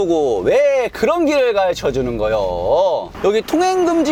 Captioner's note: dialect